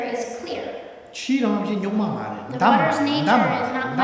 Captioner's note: speaking tibetan